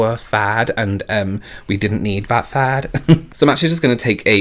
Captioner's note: chuckles